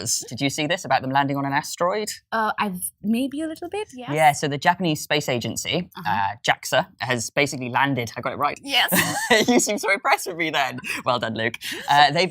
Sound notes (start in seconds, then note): 8.9 laughs